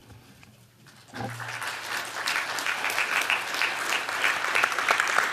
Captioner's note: applause